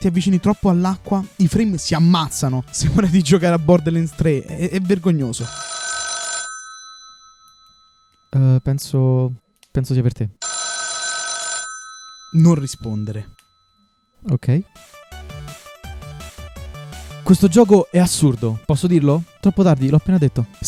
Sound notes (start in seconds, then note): 5.2 phone rings; 14.2 the phone rings